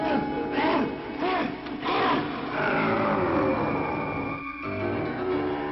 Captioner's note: werewolf growling